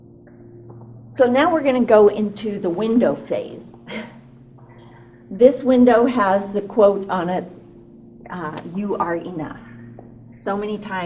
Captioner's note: chuckles